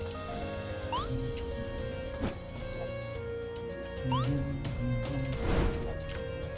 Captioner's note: humming along